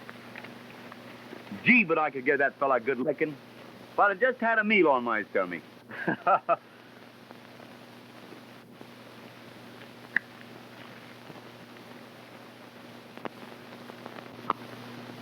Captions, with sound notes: Gee, but I could give that fella good licking, if I'd had just had a meal in my stomach. (Jack laughs)